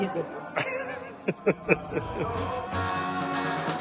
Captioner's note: laughs